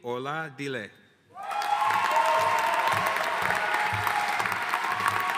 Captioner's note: audience cheering and applauding